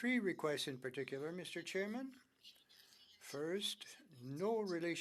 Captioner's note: speaking French